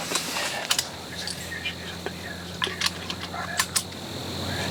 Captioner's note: gun chamber clicking